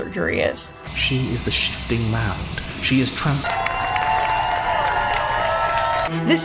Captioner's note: good ending applause